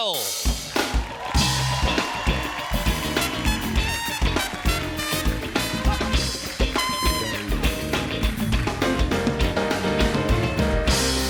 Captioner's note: band playing; cheers and applause